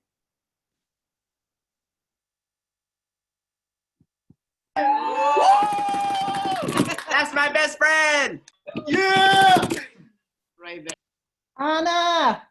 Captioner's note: applause